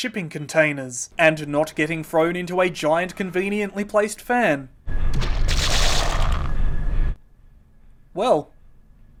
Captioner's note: sounds of gore